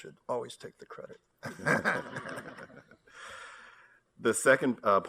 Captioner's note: laughter